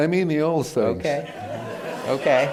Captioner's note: laughter